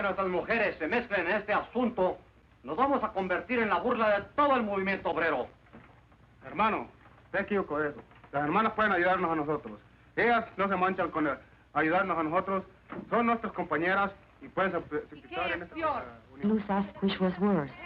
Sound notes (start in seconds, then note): 5.9 man speaking Spanish; 14.6 woman speaks Spanish